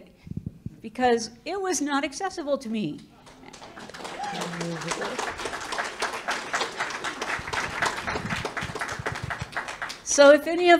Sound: public clapping

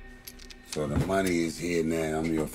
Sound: gun clicking

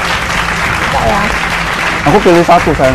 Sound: applause

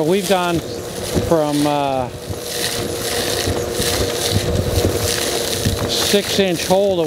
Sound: sound of vacuuming up gravel and dirt

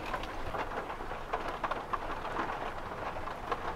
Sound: rain

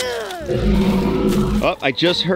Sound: grunts; animal grunts in distance

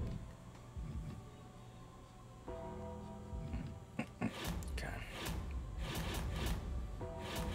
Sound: laugh

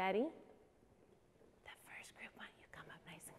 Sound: whispering

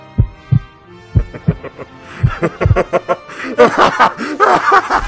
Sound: heartbeat slowly fading and Demonic Laughter; demonic Laughter

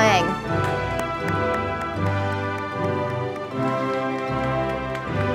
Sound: audience applauding

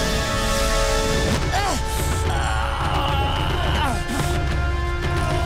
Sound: grunting

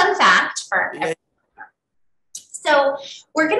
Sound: audio breaking

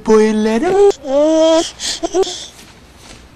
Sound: backwards cooing

